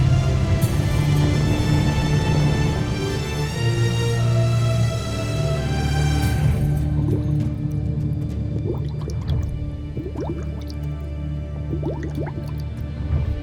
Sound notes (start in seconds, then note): 0.0 epic music playing; 0.0 music swells; 6.8 energy swirling; 6.8 mystical music playing